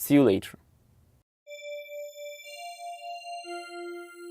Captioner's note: soft chime